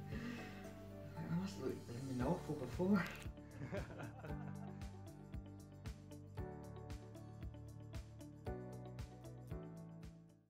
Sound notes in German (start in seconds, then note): 3.6 lacht